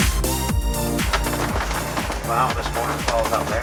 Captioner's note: pattering water drops